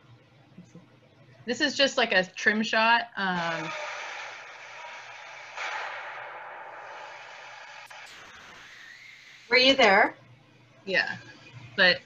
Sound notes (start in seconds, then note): 3.6 explosion